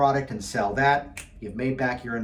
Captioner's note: snapping fingers